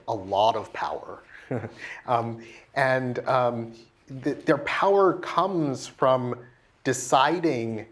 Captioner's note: laugh